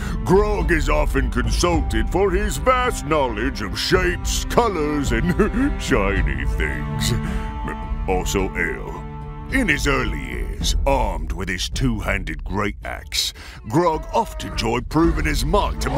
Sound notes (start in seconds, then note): 5.2 giggles